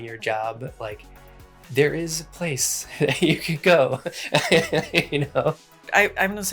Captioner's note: laughs